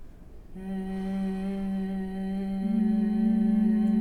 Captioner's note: humming